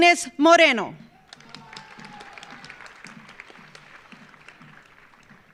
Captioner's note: audience applauding